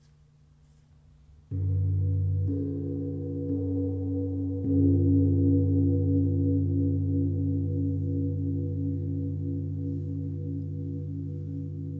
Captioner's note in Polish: gong